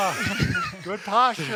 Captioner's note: all laughing